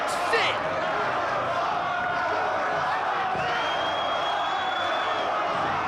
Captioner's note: crowd chants "Powerbomb"